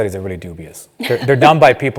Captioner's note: laugh